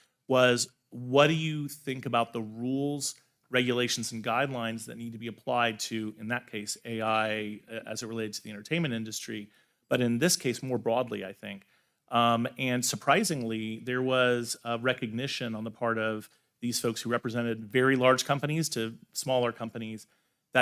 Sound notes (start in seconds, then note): none